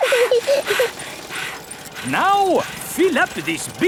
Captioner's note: chuckles; daddy pig panting; peppa chuckles; mummy pig panting